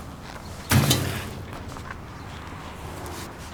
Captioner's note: banging